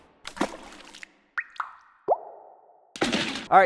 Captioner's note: dripping